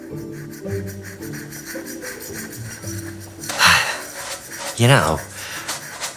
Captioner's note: scrubbing noises